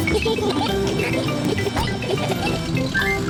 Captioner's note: giggling